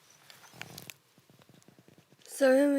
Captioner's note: silent; paper rustling